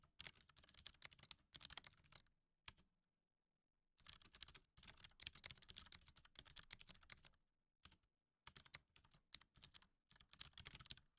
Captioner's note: typing